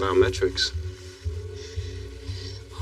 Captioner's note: breathing heaeavily